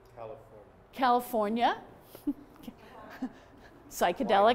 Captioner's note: laughs